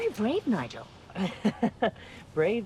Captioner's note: Nigel chuckles